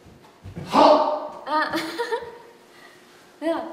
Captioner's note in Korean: 웃음